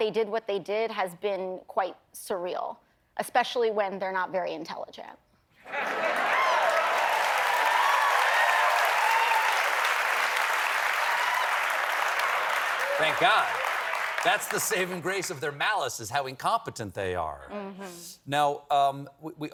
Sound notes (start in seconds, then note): 5.6 applause; 5.7 laughter